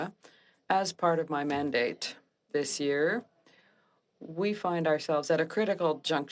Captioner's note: speaking French